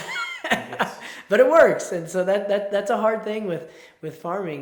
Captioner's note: laughs